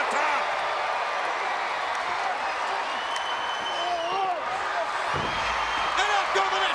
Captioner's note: crowd cheering